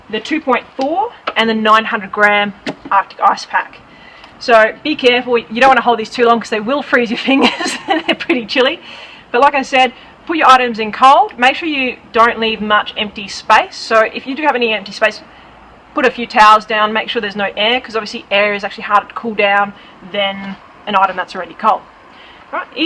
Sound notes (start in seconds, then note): 7.3 laughing